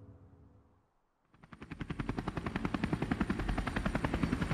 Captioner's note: helicopter whirring